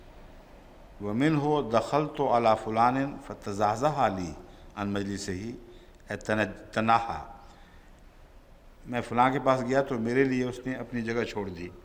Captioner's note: Arabic